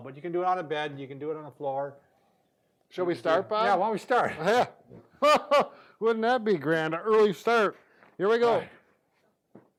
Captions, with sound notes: But you can do it on a bed and you can do it on the floor. Should we start, Bob? - Yeah. Why don't we start? - Yeah. (laughs) Wouldn't that be grand, an early start. Here we go.